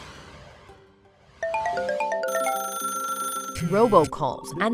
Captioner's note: cellphones ringing; cellphones chiming